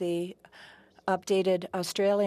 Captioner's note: speaking French